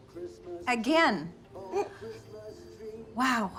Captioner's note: chuckling